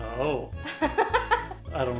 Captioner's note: laughs